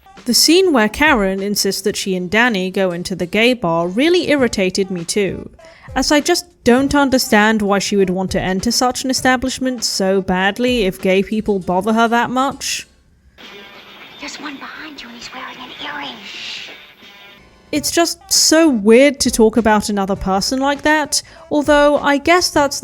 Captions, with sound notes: The scene where Karen insists that she and Danny go into the gay bar really irritated me too, as I just don’t understand why she would want to enter such an establishment so badly if gay people bother her that much. “There’s one behind you and he’s wearing an earring!” [Danny shushes her] It’s just so weird to talk about another person like that, although I guess that’s